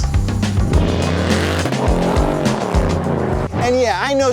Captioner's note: car engine roaring